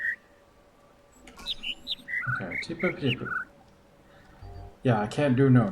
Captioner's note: overlapping birds chirping, ˥ ˧ ˥ ˩; imitates notes